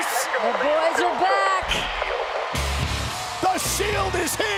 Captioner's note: applause